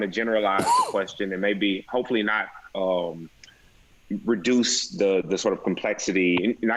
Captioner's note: cough